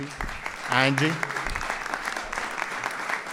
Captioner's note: applause